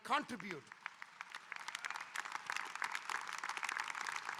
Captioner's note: audience applauding